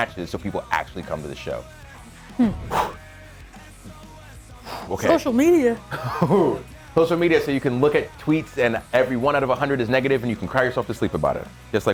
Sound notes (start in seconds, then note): 5.8 laugh